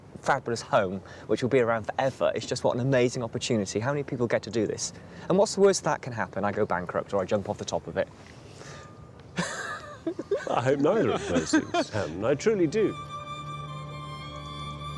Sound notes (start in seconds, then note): 9.3 chuckling; 11.6 light music